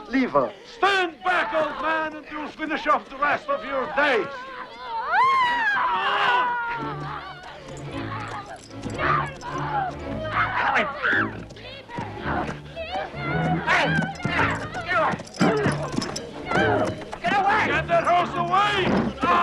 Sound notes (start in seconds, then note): 4.9 family screaming; 8.6 dramatic music